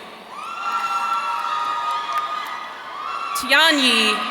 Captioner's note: audience cheering